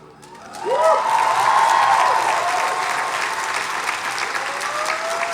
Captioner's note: audience applauds and cheers